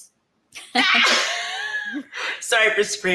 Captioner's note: women laughing